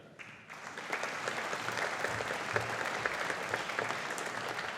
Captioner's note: audience applauding